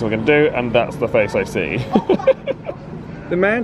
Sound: laughs

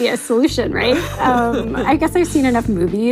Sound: laughs

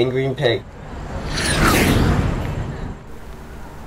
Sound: jet fly

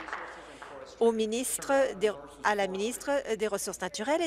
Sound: applause

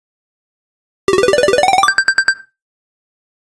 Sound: sound of winning

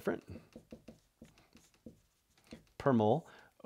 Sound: marker tapping board

